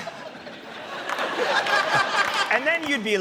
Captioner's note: laughter